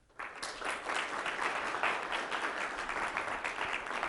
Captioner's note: students clapping